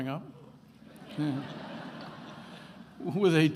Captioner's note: attendees laughing